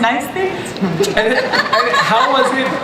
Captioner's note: laughs